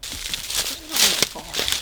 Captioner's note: leaves crunching